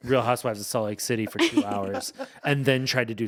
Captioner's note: laughing